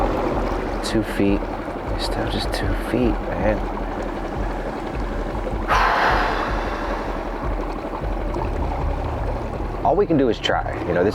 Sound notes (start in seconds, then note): 5.7 sighs